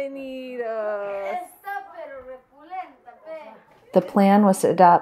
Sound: boys chatter in Spanish

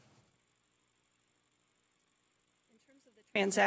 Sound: audio cuts out

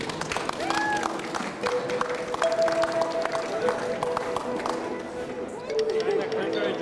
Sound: applause

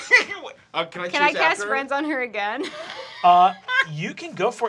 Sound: laughing

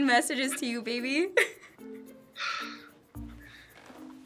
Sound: laughs

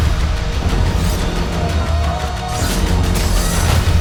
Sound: shouting

